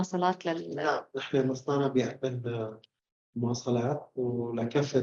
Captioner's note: speaking arabic